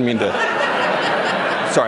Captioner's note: laughter